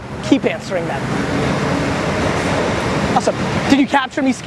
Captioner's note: car engines revving